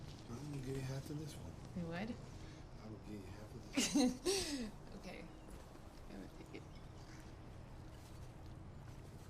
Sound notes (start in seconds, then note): 3.7 Nikita laughing